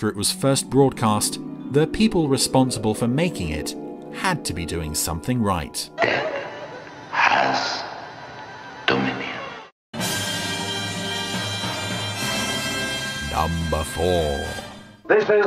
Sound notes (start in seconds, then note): 6.6 voiceover; 9.9 dramatic music